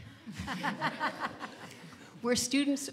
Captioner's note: panel laughs